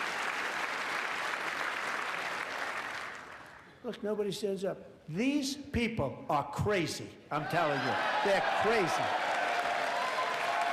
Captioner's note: applause